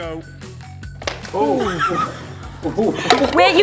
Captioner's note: laughing